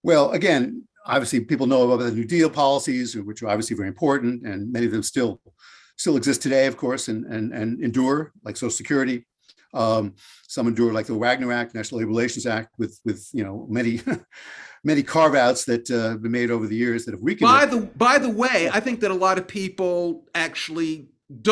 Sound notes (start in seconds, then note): 13.9 chuckles